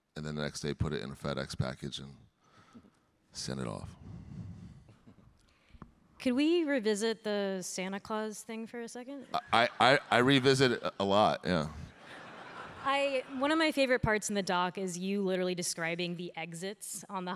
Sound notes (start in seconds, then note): 4.9 chuckles; 11.9 audience laughing